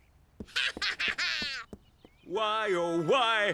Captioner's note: laughing